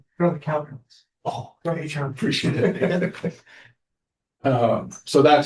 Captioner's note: laughter